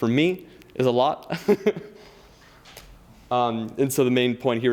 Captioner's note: laughs